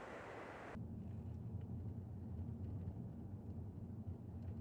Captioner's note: car engine humming